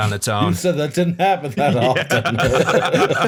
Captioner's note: laughter